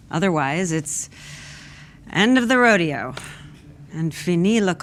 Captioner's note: speaks in French